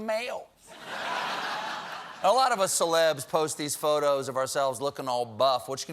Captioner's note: laughter